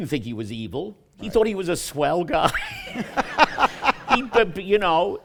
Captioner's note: laughter